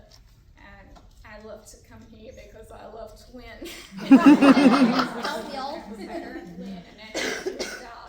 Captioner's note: laughter